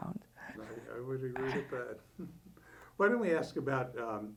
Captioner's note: chuckles